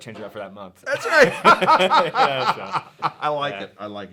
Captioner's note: both laughing